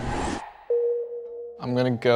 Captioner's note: high tone chimes